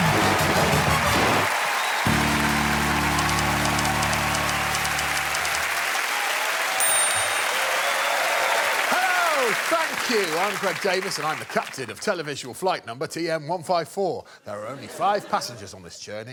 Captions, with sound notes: [crowd cheering and applauding] Hello, thank you. I'm Greg Davies and I'm the captain of televisual flight number TM154. There are only five passengers on this journey.